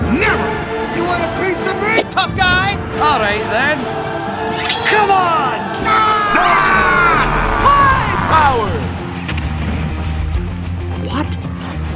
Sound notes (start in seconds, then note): 5.7 yelling; 5.7 yelling & roaring